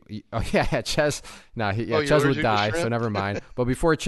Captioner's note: laughs